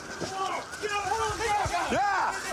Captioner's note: officers yelling